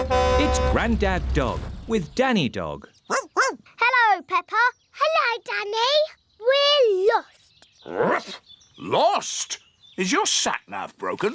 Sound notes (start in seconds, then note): 3.1 barking; 7.2 barks